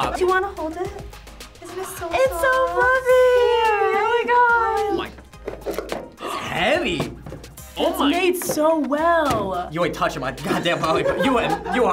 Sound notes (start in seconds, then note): 6.1 gasps; 10.4 laughs